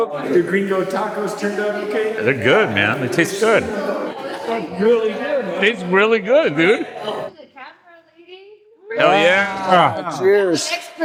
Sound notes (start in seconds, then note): 2.8 audience Chattering